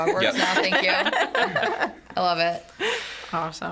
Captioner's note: group laughs